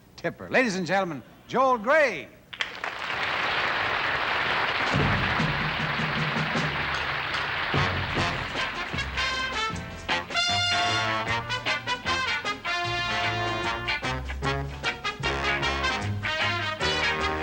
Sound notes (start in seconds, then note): 6.7 applause